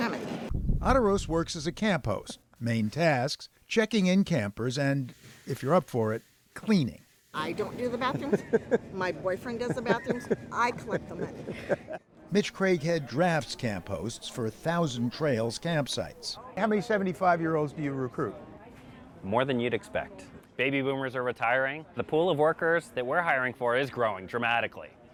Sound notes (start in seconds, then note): 8.0 laughter; 11.9 laughter